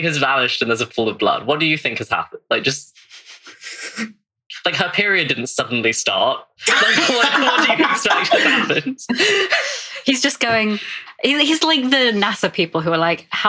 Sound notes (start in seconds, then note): 11.4 laughs